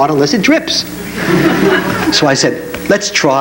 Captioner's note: audience laughs